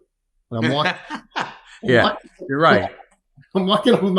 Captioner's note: laughs